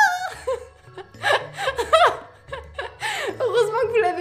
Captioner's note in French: rire